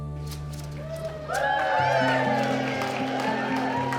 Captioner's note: crowd cheers; peaceful guitar music